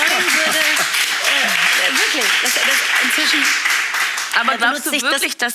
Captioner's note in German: Applaus